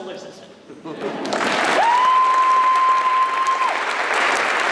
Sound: applause

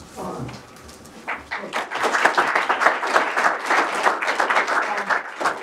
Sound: applause

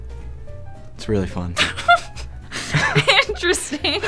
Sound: laughs in disbelief; laughs

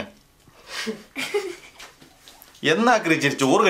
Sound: kids chuckle

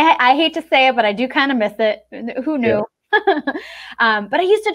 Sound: chuckles

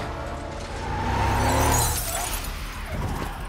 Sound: tires screeching

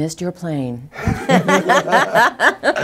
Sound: both laughing

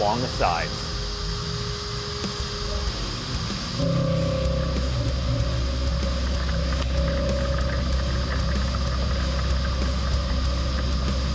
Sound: machining noises

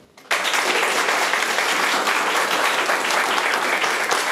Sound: room applauds

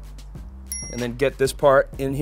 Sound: bell rings

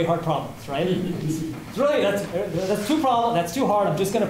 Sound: laughter

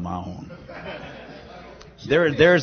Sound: laughter

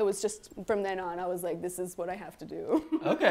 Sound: laughs

